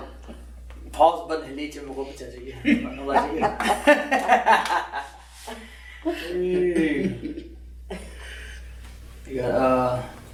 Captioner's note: laughter